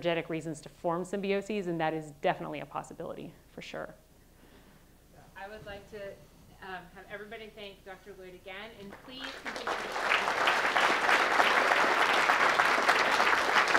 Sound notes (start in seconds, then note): 9.0 audience applauding